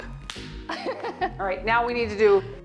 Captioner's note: chuckles